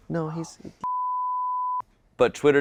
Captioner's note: signal tone beeping